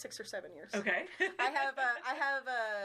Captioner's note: chuckling